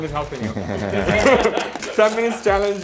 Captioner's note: laughing